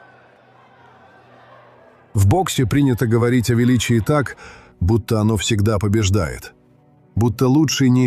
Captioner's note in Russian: ликование